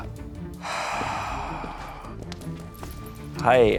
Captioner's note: sigh